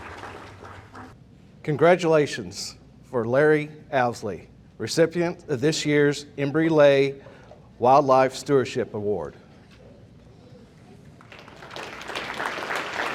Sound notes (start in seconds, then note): 9.3 audience applauding